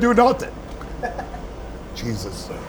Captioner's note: chuckles